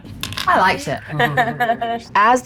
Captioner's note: laughs